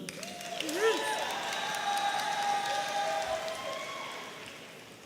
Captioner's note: audience applauding and cheering